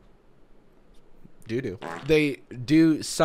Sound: flatulence sound effect

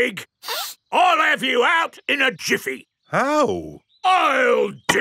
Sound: sniffs

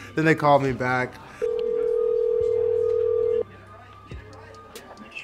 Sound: phone ringing

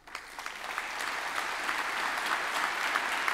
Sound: applause

